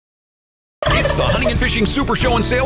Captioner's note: turkey gobbling